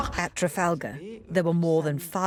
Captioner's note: voiceover